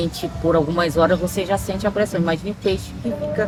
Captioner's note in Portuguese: som de pássaros e música ao fundo